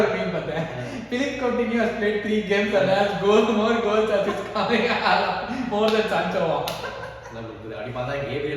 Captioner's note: laughs